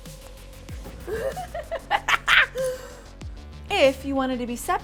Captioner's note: laughs